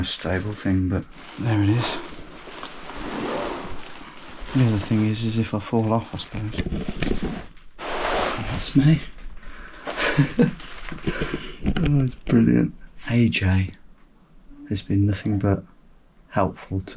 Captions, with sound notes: Doesn't feel the most stable thing, but there it is. The other thing is is if I fall off, I suppose. That's me. (chuckles) Oh, it's brilliant. AJ has been nothing but